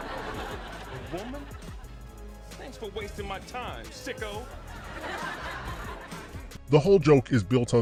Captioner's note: laugh Track; laugh Track